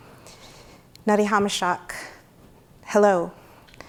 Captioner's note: speaks in foreign language